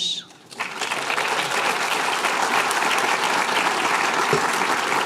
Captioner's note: applause